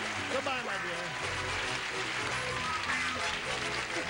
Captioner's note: audience applause